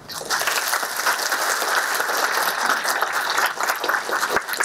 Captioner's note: applause